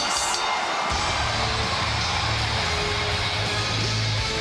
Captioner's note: bell ringing